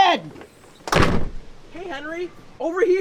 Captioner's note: door closing